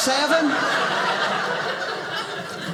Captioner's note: audience laughing